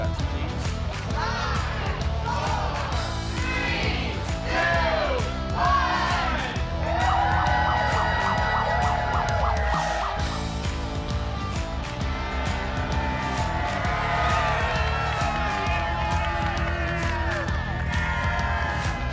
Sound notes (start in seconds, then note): 6.9 siren whooping; 7.2 group cheering; 10.3 energetic music; 13.5 group cheering